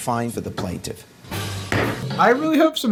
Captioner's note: gavel banging